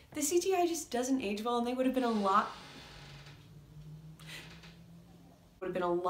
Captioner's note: another door creak; door creak; breath